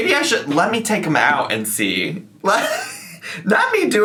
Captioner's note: laughs